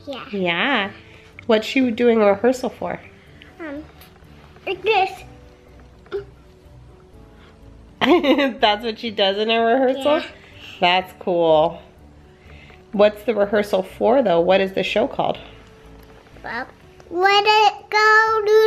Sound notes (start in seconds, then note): 8.2 laughs